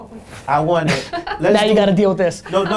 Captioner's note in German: Lachen